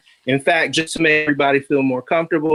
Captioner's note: none